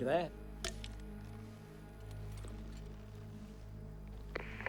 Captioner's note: cans clink